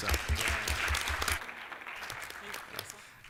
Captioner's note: applause